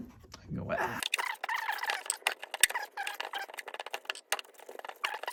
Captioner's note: fast forward sounds